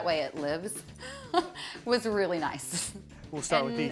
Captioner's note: laughs